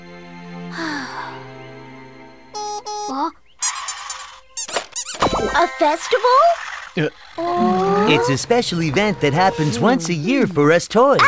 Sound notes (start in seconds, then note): 0.7 Duri sighs; 2.5 Melo honks; 3.6 Melo squeaks